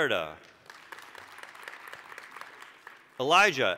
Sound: applause

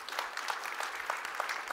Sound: applause

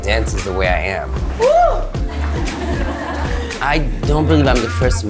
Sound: crowd laughs

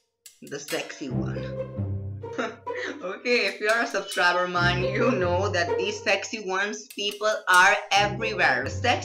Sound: chuckles

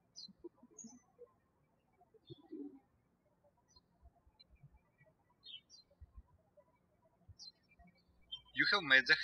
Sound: birds chirping

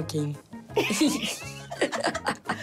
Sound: laughter

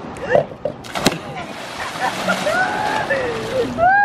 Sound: splashes; laughing

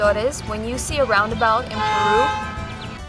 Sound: car horn

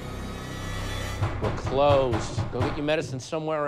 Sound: dramatic music plays; pounding on door

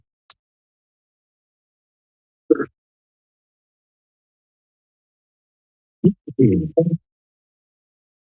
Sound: silence

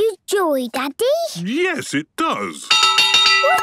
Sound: clanging

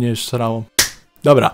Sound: clap

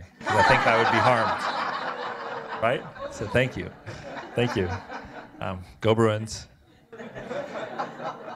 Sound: laughter

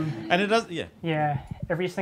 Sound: audience laughs

